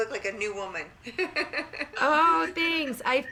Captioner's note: laughter